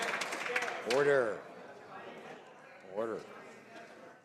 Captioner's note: some Applause